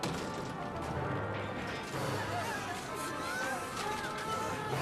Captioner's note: all screaming